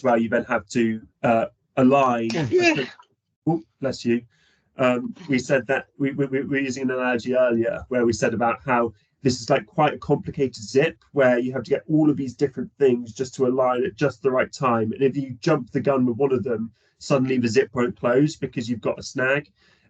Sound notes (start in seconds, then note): 2.3 sneeze